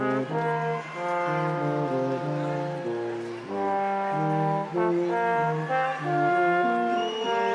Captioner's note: instrumental music continues; crowd applauding